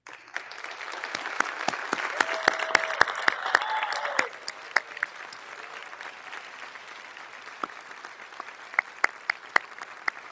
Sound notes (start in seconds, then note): 0.6 audience applauding; 2.7 audience cheers